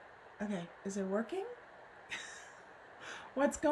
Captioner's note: laughs